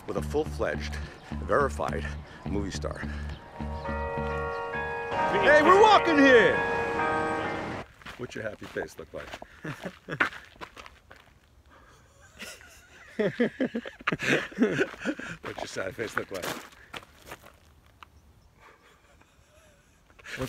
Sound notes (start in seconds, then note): 3.4 church bells ring; 9.9 chuckles; 11.8 Kevin laughs